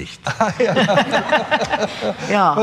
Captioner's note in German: Lachen